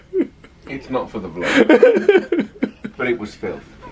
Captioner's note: laughing